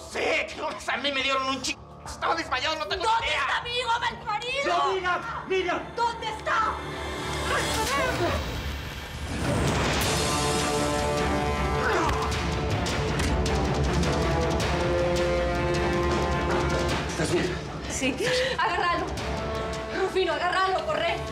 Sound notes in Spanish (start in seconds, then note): 7.1 golpes; 8.8 manotazo fuerte; 14.0 puñetazos